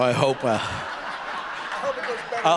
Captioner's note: audience laughing